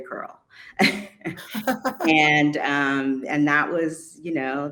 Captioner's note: laughing